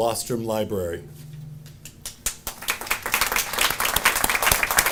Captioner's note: audience applauding